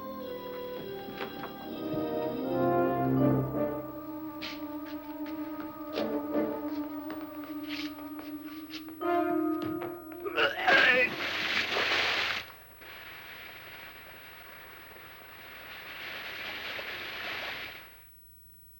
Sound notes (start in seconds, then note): 10.3 grunting; 11.8 splash; 13.1 sizzling